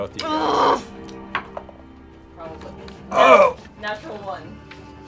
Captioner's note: groans